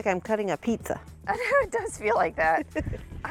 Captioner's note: laughs; chuckles